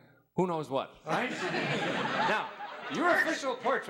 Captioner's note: audience laughing